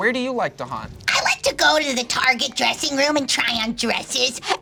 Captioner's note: screeches